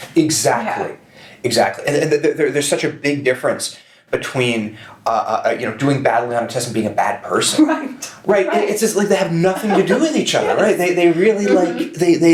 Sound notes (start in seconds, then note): 9.4 chuckles